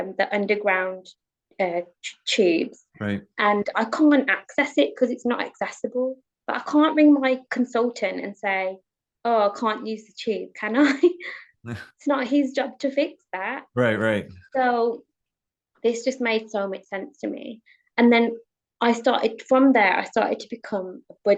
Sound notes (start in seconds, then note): 11.6 chuckles; 13.8 chuckles